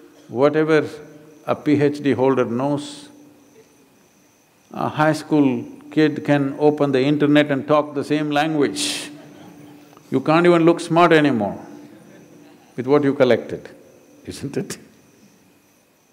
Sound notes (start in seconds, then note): 8.8 few Laugh